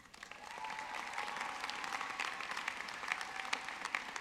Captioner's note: audience clapping